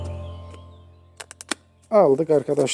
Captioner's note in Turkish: makas kesme sesi. Kıtırt